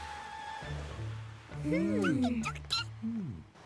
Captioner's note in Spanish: emocionado